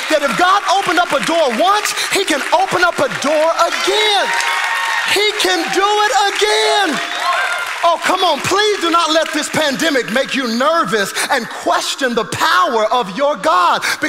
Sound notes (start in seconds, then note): 4.1 congregation applauding; 4.1 congregation cheering